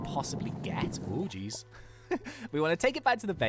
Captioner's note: laughs